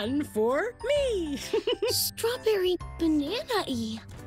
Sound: laughs

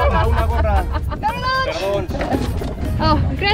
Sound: laughter

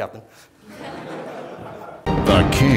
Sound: laughter

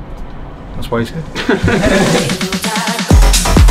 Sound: laughing; upbeat house music

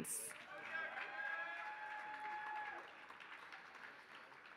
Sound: applause

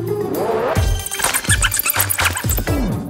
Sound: squeaking, scratching

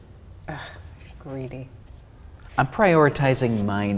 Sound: scoffs

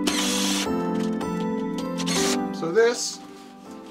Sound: drilling

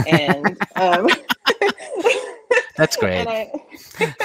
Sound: both laugh

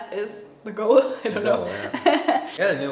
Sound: laughing

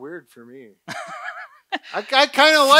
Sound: laughs

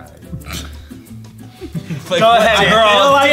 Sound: laughing

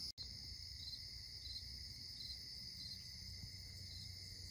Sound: crickets chirping

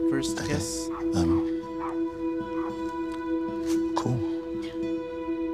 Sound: dog barking

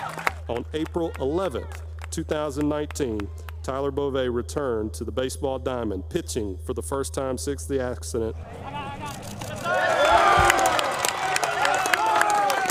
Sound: cheers

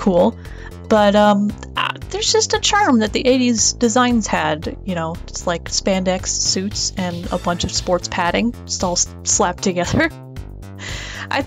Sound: laughs

